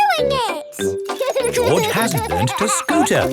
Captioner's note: george laughing